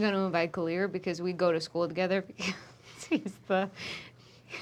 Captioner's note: laughs